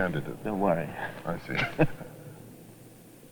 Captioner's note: chuckles